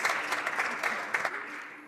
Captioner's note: applause